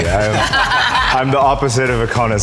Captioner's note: group laughing